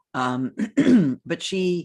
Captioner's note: clears thraot